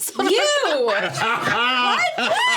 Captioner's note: laughing